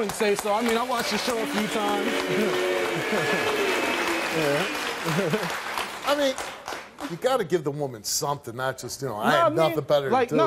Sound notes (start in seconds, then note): 1.1 audience booing